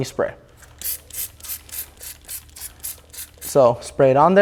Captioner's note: bottle spraying